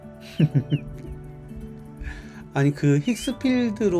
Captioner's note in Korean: 웃음